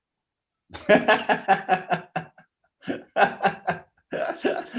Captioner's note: laughter